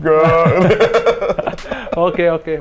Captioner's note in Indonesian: ketawa